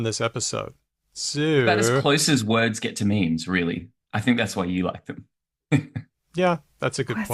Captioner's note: laughs